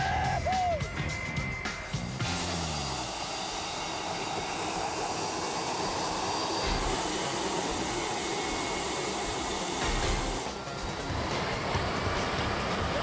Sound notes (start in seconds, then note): 0.0 vacationers yelling; 2.2 jet roaring; 2.2 upbeat music; 8.1 dramatic music; 8.1 jet roaring